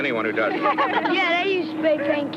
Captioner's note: group chuckling